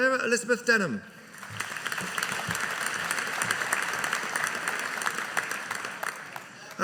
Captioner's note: audience applauding